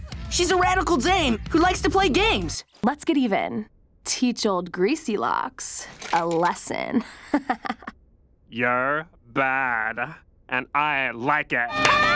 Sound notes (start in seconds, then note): 7.0 laughs